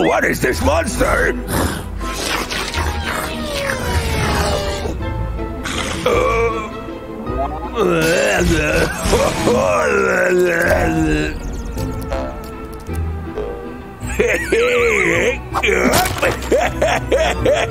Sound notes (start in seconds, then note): 1.1 starts making weird noises and laughing